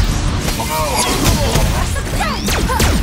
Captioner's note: guard robots groaning